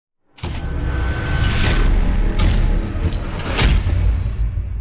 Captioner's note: metallic chiming